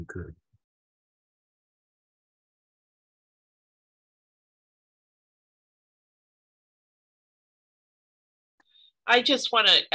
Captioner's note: silence